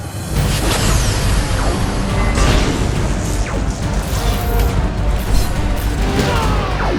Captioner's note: dramatic instrumental music; beams whooshing; people yelling